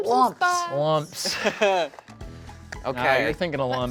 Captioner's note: chuckles